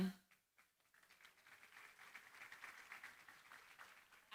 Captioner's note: applause